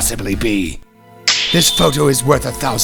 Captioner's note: snap!